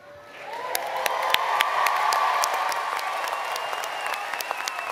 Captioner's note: applause